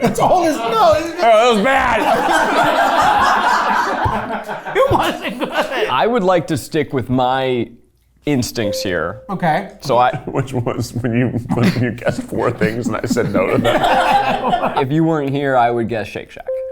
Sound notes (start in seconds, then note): 2.9 all laughing; 5.5 laughing; 8.9 bell ringing; 13.8 all laughing